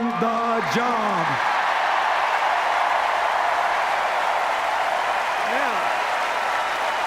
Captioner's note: cheers, applause